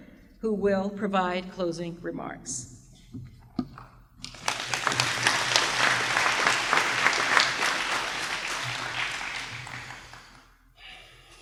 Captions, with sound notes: who will provide closing remarks. *Applause*